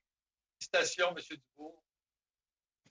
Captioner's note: speaking French